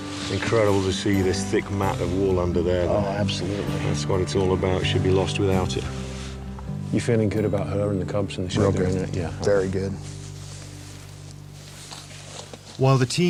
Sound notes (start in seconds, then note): none